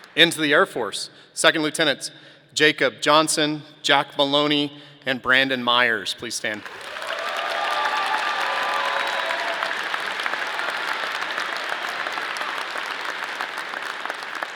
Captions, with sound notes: Into the Air Force, Second Lieutenants Jacob Johnson, Jack Maloney, and Brandon Meyers, please stand. (audience cheering)